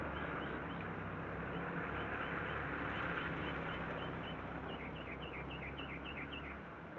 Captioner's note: birds chirping; vehicle droning